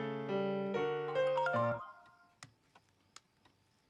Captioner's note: cell phone chimes